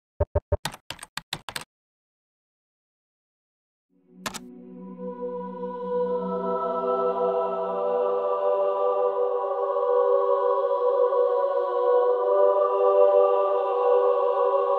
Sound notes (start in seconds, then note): 0.2 typing; 4.7 soft music